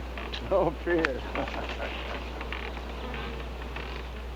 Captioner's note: laughing